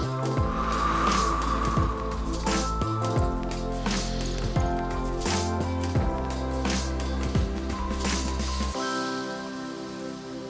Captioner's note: exhales